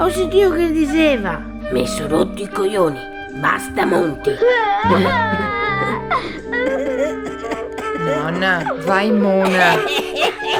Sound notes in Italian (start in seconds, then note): 4.4 Heidi piange